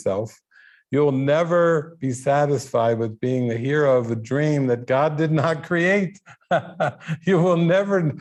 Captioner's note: laughing